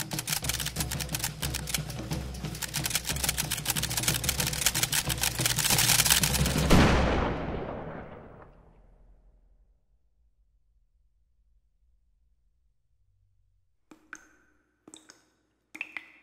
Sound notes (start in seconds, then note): 6.8 gun fires; 13.6 blood drips